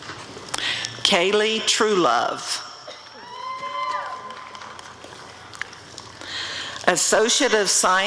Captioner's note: applause and cheering